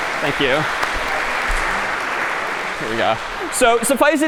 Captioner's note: applause